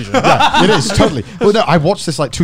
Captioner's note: laughs